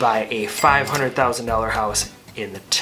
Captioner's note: cash register dings